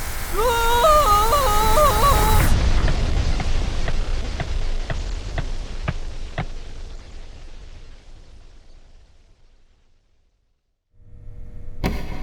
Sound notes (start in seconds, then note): 2.3 Minecraft suffocation noises